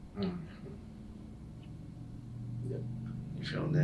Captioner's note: patient grunts